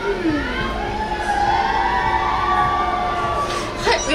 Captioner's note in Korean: 밖에 있던 의 환호 소리